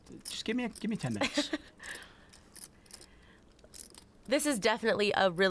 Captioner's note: laughs